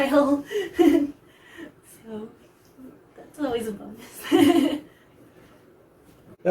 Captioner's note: laughs